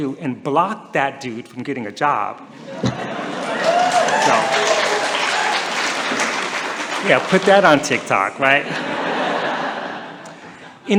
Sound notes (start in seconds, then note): 2.5 laughter; 3.2 applause and cheering; 8.6 laughter